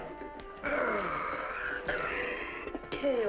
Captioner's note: yawns; coughs